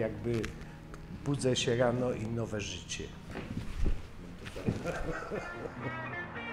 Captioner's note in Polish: laughs